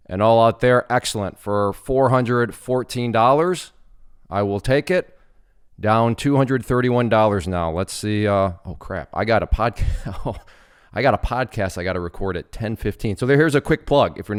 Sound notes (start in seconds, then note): 9.8 laughing